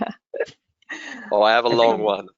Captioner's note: laughs